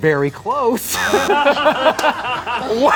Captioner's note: laughing; buzzer ringing